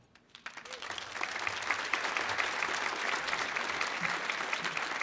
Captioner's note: audience applauding